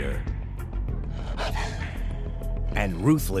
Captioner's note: pants